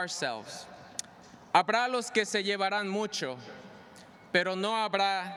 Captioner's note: speaking spanish